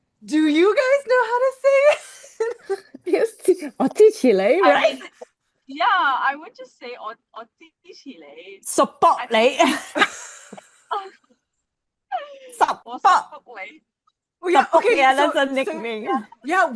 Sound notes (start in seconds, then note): 9.6 laughs